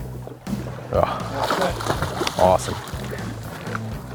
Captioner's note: splash